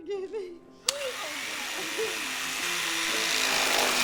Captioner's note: knife whirring on